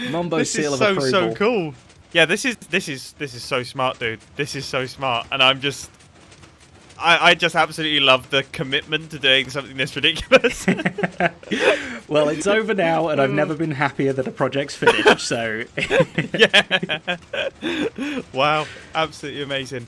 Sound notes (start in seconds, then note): 10.1 both Laughing